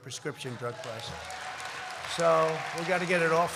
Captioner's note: applause